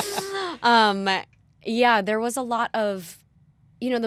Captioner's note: laughter